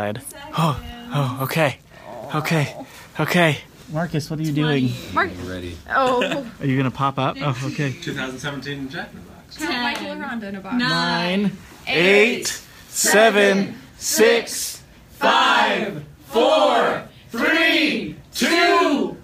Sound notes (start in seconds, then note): 1.9 groans; 5.9 laughing